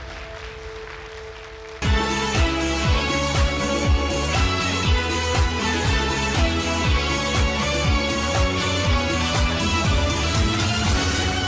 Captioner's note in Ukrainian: оплески